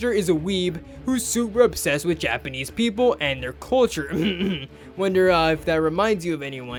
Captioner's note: cough